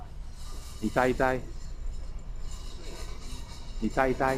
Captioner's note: mandarin